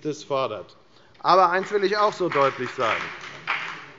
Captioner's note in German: Beifall bei der FDP